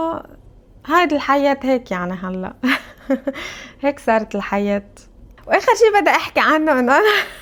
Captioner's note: laughs; laughs